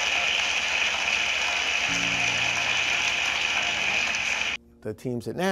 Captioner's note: cheers and applause